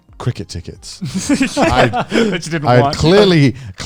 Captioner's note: chuckling